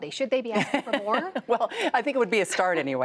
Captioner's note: laughter